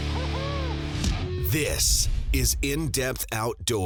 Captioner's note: voiceover